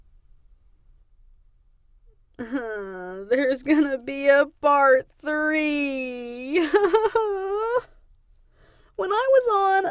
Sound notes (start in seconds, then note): 6.9 crying